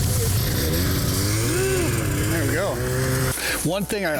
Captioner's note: snowmobile engine revving